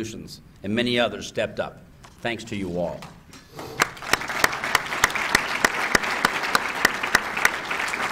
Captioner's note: applause